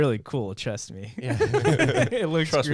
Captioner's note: laughing